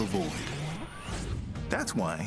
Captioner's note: warping